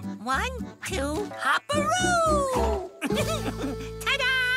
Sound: giggling

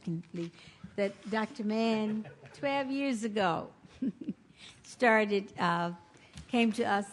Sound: laughs

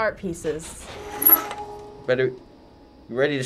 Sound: rattling noises

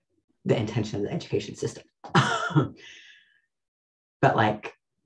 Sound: laughs

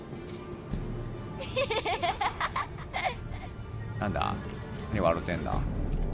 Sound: laughs

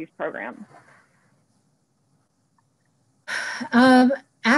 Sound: silence

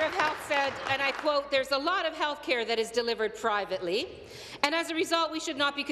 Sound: applause

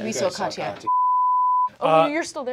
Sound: beep

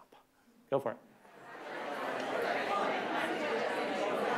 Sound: chatter

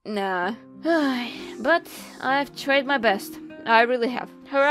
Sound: tired sigh

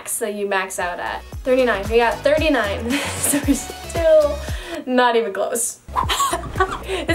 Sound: laughs

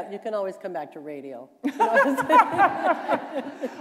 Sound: laughter

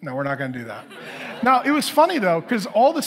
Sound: congregation laughing

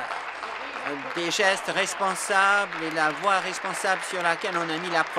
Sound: applause

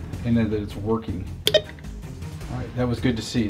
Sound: beeps

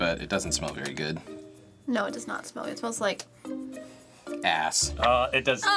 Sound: sniffs

